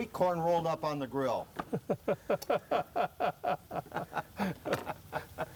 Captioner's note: laughs